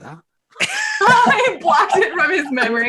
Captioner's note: all laugh